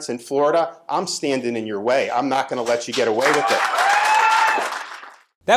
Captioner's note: applause